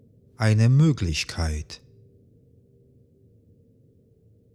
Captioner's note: german